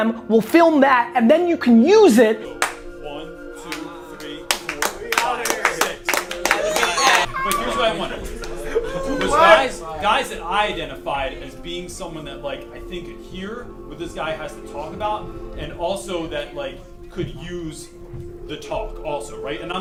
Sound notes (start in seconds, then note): 6.1 applause